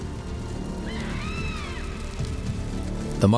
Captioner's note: screams